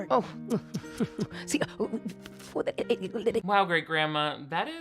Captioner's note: grandma speaking gibberish